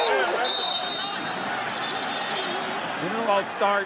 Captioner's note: whistle